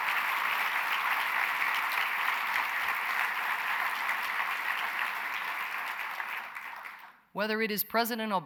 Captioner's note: applause